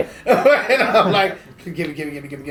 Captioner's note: laughing